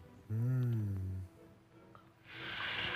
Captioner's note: grunting